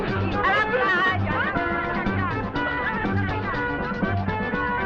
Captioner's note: dancers speaking Spanish